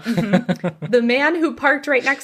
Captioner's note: laughs